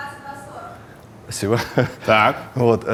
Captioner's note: chuckles